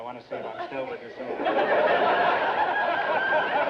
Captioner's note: audience laughter